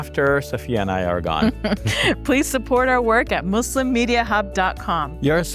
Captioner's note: laughs